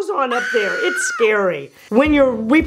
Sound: screams

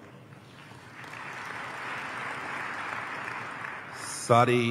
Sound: applause

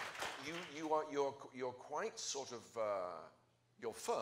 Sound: applause

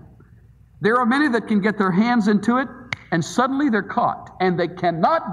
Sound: snaps fingers

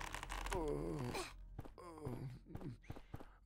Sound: grunts softly

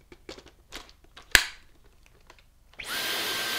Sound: part clicking; vacuum whirring

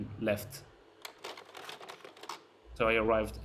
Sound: slide projector clicks

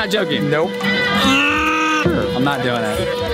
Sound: groans

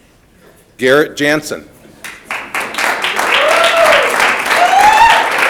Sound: audience applauding

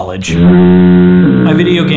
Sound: foghorn blowing

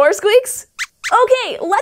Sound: Squeaks nods and squeaks

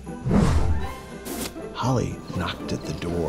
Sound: box scrapes

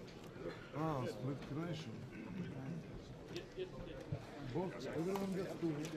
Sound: speaking foreign language

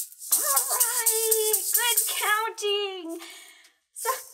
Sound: excited

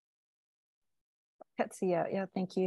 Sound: speaking indigenous language

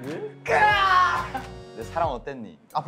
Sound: cry

